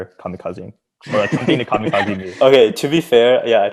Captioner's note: chuckling